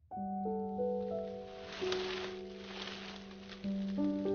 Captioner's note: gentle music; leaves rustling